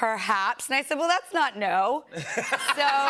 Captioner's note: laughter